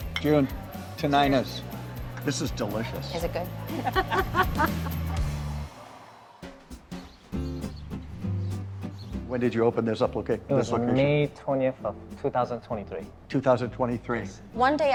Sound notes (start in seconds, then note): 0.0 mugs clink; 3.6 both laughing; 6.5 lighthearted music; 6.8 birds chirping